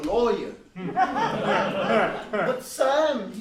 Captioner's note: laughs